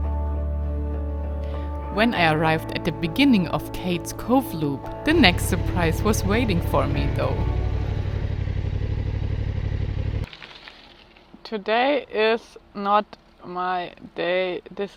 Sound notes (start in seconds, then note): 0.3 slow music continues; 7.6 engine revving